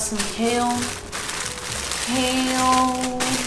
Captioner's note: package crinkling